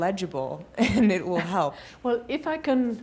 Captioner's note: chuckles